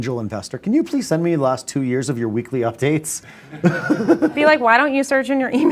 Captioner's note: laughs